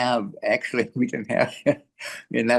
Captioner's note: laughs